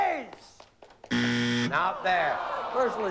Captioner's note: buzzer